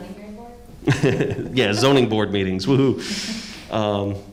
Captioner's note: laughs